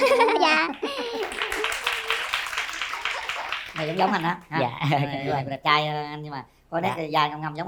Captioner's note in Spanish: Aplaudir